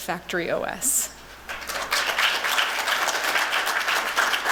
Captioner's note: clapping